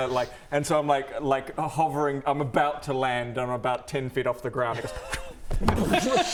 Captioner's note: pwfft; boomf!